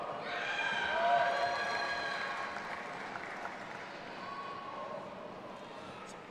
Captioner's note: audience applauding and cheering